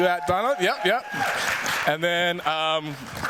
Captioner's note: cheers, applause